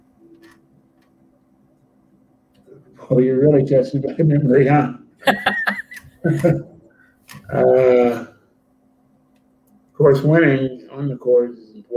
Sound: laughter

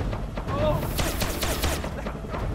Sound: gun shooting frantically

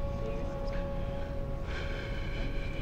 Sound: exhales deeply

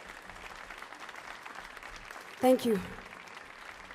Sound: audience applauds

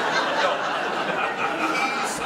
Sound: audience laughter

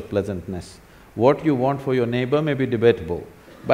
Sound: laughter

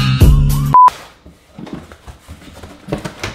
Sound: beep

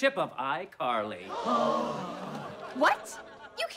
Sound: gasping

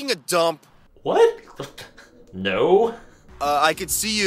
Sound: chuckles

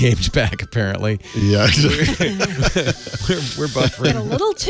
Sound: laugh

